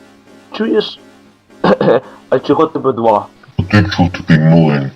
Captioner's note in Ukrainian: кашляє